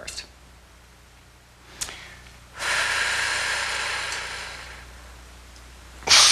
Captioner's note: breathing; breathing